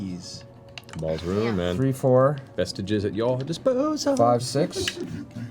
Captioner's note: singsong